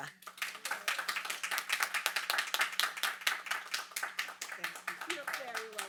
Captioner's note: audience applauding